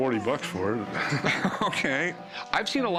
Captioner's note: laughing